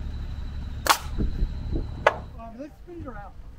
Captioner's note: nail gun firing